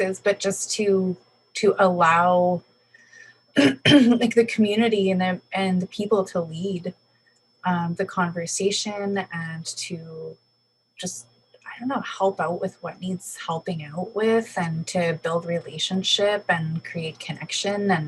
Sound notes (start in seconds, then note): 3.6 clears throat